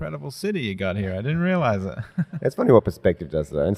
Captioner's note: laughs